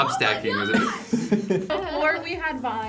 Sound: React laughs

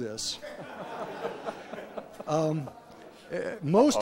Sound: laughter

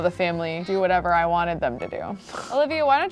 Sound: snorts

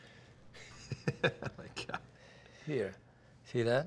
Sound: laughing

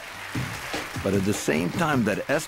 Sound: audience applauding

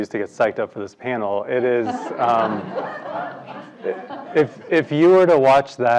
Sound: laugh

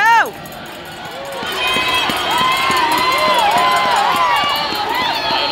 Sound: bell ringing and crowd cheering

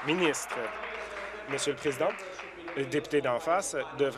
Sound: applause

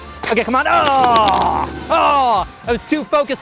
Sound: groans

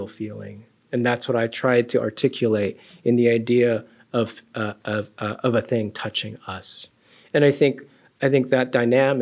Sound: none

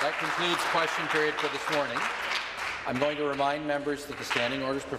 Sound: applause

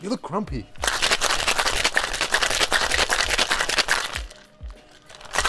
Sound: ice cubes grinding

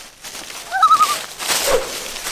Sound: loon call

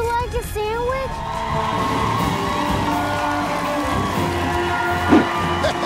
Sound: audience cheering

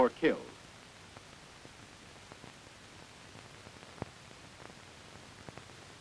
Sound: silence

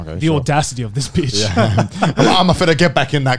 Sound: laughing

